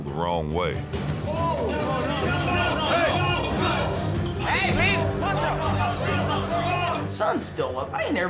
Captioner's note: shouting, fighting